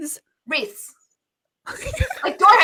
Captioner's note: laughs